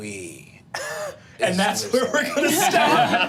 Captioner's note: group laughing; laughs